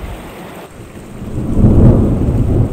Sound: thunder

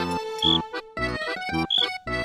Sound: whistling

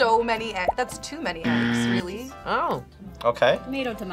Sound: buzzer rings

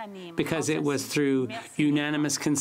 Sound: speaking French

